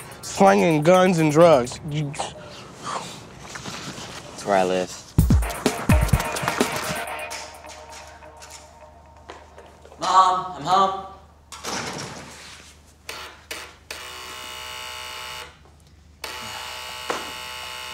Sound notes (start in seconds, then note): 12.9 doorbell buzzing